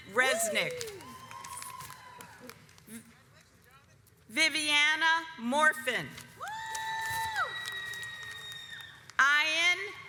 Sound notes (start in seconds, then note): 2.1 audience applauds; 7.4 audience applauds